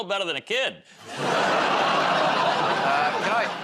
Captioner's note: laughter